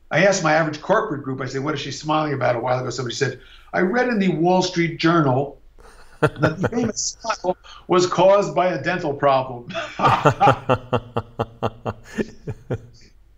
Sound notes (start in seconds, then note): 9.7 laughing